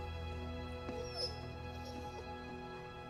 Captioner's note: dog whines